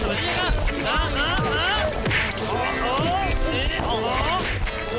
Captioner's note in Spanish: Sonido de peleas